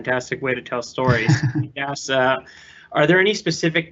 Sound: laughing

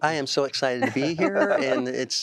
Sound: laughter

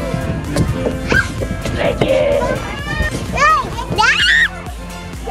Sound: laughing; shouting and laughing

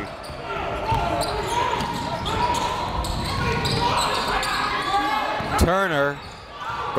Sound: crowd talking; coaches yelling

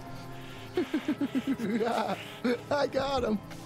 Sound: laughs maniacally

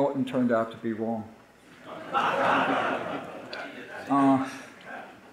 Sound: audience laughing

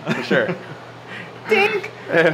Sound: laughs

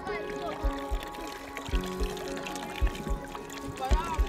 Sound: water running

